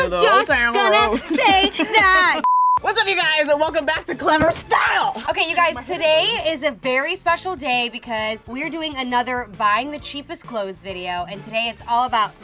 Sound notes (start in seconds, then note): 0.8 laughs; 2.4 beep; 5.0 thud